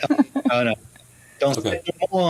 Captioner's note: speaks in French